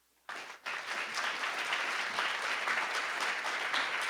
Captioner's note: applause